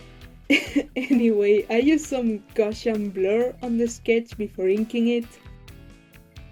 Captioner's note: chuckles